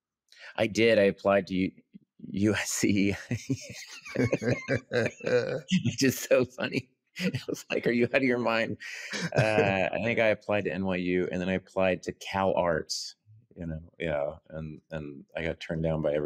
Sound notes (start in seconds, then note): 3.0 both laugh